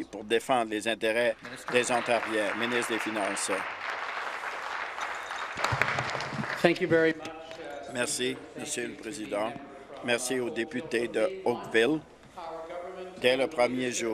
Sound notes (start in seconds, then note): 5.5 applause